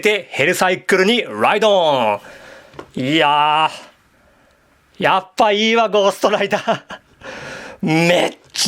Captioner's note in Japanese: 笑い